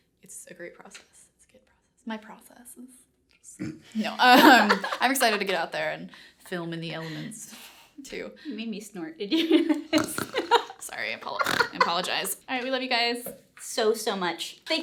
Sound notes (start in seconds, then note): 4.2 laughter; 11.2 laughter; 11.3 snorts